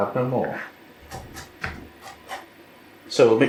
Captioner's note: quiet choppin